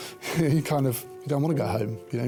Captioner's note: laughs